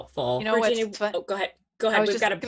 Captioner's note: murmurs